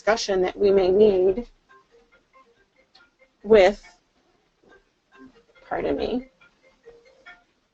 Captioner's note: phone ringing